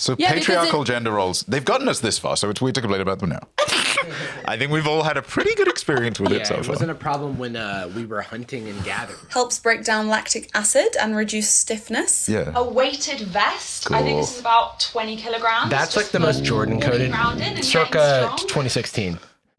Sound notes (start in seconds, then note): 3.6 laughs